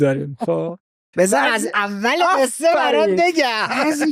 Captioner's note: laughs